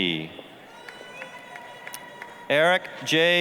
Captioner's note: applause, cheering